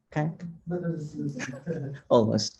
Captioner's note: faintly speaking